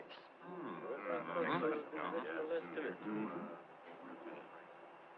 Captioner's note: all chattering